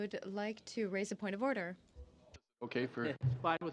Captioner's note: speaking french